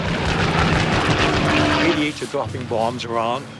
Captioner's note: gunshot fire